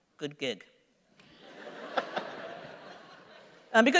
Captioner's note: laughter